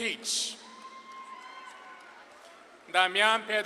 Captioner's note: audience claps and cheers